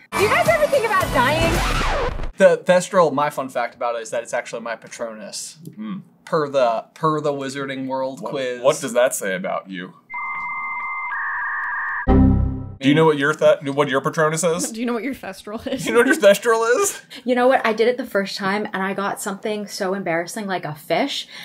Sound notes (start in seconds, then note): 9.9 AOL dial up sound; 12.1 error thunk